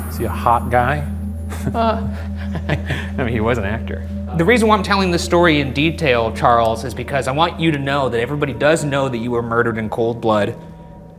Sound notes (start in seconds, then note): 1.5 chuckle